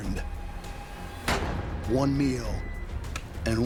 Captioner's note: gunshot